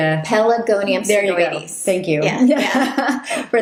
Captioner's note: laughing